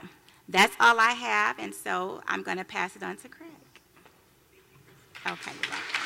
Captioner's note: applause